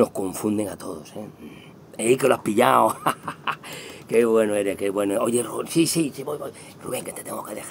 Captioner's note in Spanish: Risas